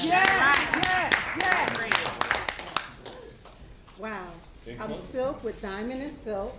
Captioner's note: applause